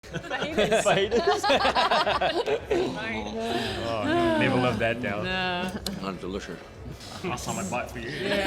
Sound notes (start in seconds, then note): 0.1 all laughing